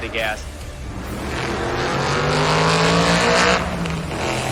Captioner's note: engine rumbling